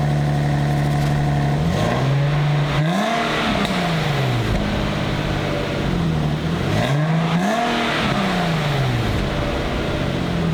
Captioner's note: engine roaring